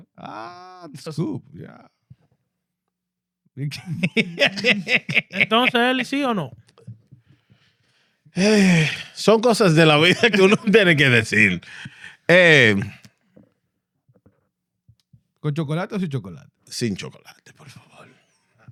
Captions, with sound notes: Ah, the scoop, yeah. (Laughing) (Speaking In Foreign Language)